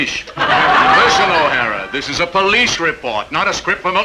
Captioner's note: audience laughing